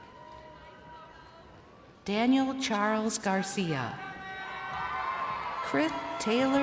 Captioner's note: crowd cheering